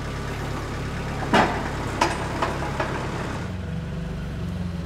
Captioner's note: metal thudding